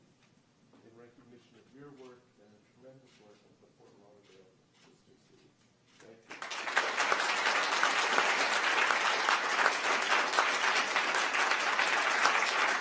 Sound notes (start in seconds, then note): 6.2 applause